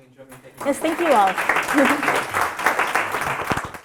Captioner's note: applause